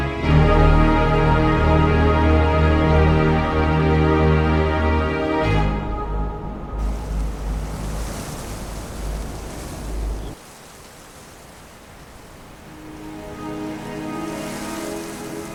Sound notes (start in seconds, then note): 6.8 leaves rustle; 7.6 wind blows; 12.4 gentle music